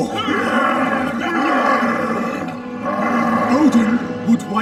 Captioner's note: grunting